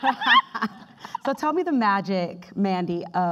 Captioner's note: laughing